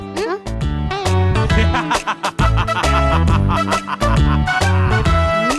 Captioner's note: uncle laughs like a villain